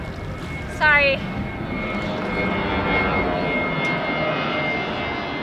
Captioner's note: airplane soars overhead